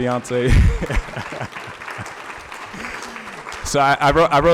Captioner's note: audience clapping; laughing